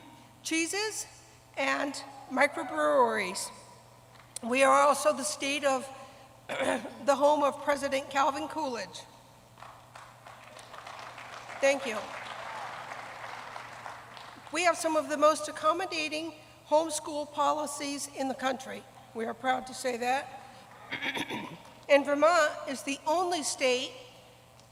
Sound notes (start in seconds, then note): 14.3 applause